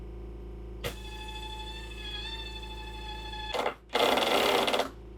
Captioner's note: drill whirring